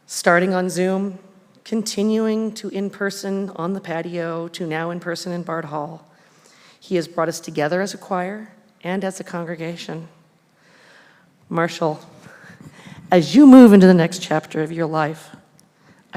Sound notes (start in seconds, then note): none